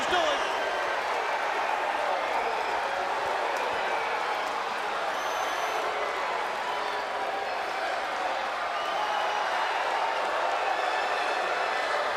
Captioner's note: crowd cheering